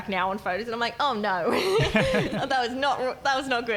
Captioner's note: laughing